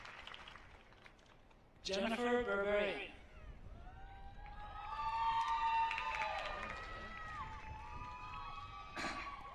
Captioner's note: applause